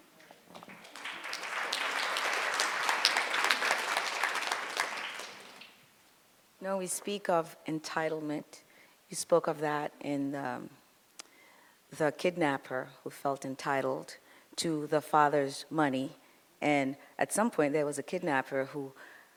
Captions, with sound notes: (audience applauds) - No we speak of entitlement. You spoke of that in the, the kidnapper who felt entitled to the father's money, and at some point there was a kidnapper who